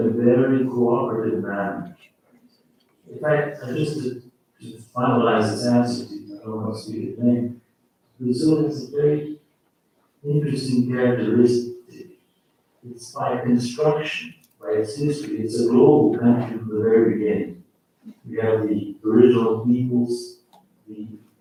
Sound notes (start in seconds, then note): 16.6 faintly speaking